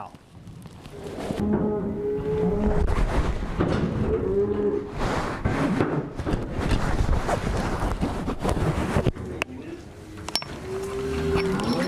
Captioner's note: cattle sounds